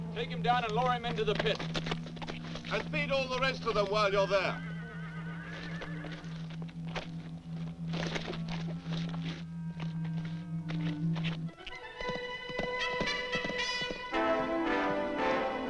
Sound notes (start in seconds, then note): 4.1 horses whinny; 11.4 dramatic orchestral music